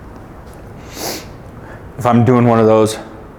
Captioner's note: snorting